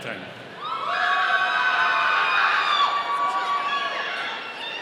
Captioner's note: audience cheering